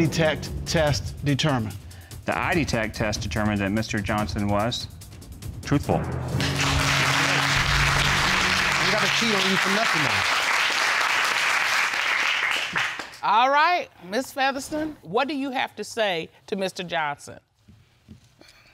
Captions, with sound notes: What did the eye-detect test determine? The eye-detect test determined that Mr. Johnson was... truthful. (AUDIENCE APPLAUDING) That's right. I never cheat on you for nothin' else. All right. Ms. Featherston, what do you have to say to Mr. Johnson?